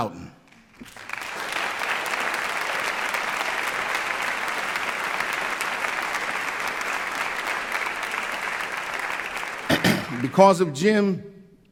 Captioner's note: applause